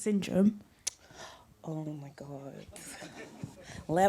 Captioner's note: laughter